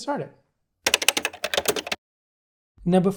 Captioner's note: keyboard clicking